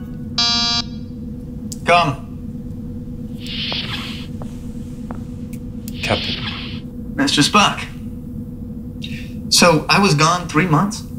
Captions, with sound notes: [Door signal buzzes] Come! [Door opens] Captain! Mr. Spock. So, I was gone three months?